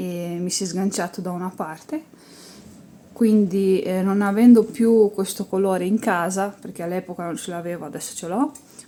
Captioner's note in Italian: sbuffare